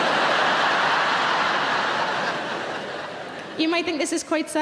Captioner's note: audience laughing